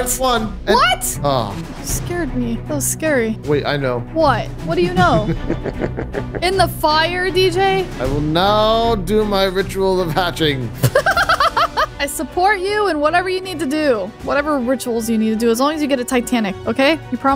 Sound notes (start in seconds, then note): 4.8 chuckles; 10.8 laughs